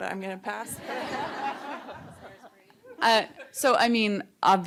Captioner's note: laughter